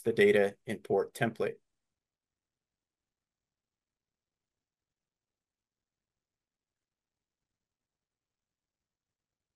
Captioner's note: silence